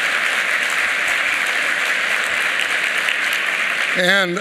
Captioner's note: applause